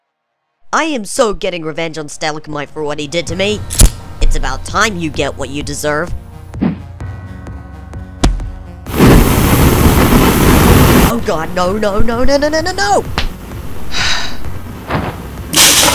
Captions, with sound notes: I am so getting revenge on Stalagmite for what he did to me. It's about time you get what you deserve. Oh god! No, no no nononono! *sigh*